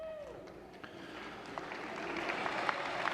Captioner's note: applause